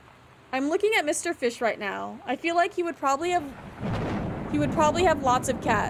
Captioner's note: thunder